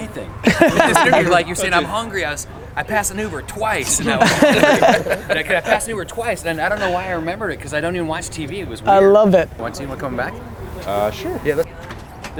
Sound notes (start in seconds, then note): 0.4 group laughter; 3.7 group laughter